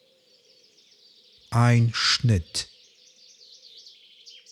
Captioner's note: german